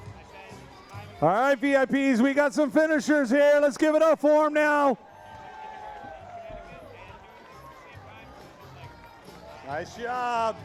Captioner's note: cheering